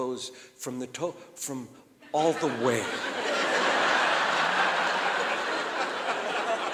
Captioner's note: audience laughing